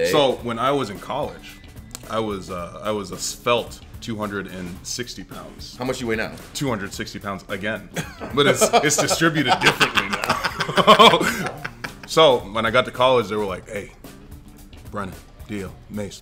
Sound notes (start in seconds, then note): 7.9 laugh